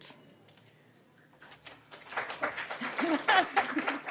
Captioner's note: applause